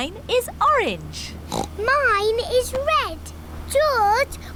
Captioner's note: oinks